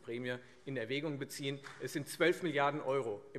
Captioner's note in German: Beifall Freie Demokraten